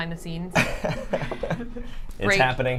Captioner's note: laughs